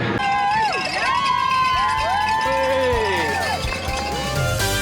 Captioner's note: crowd cheering; jazz music playing